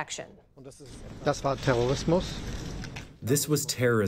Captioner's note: through translator